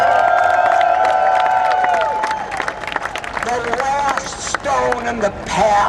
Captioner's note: cheers and Applause